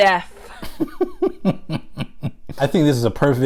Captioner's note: laughs